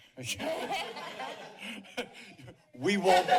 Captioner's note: laughter